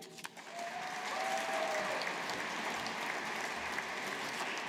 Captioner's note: audience applauding